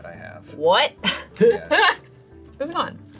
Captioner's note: laughs